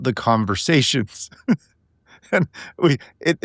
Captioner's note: laughing